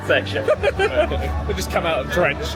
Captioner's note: laughing